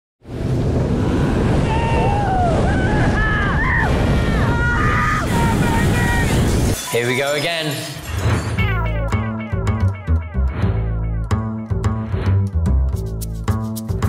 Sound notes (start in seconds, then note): 1.0 petrified screams